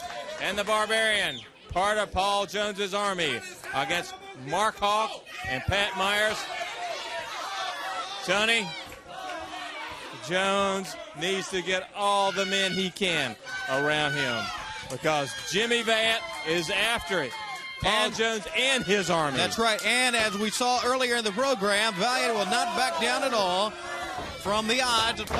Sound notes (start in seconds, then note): 6.3 crowd chatter